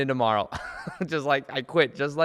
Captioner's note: chuckles